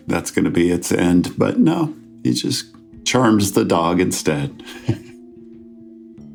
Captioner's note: chuckles